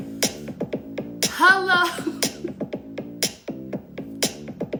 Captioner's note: laughs